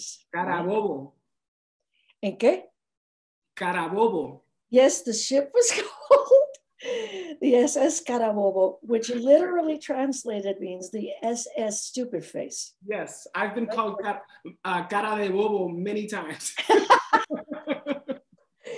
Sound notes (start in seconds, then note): 0.3 speaks in foreign language; 7.0 speaks in foreign language; 14.8 speaks in foreign language; 16.7 laughs